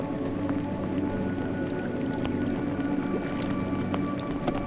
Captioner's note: rain drops plopping